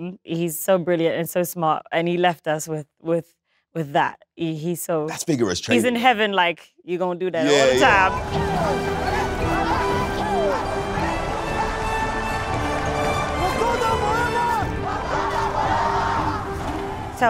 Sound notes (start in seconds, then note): 7.4 people chanting; 7.4 heroic music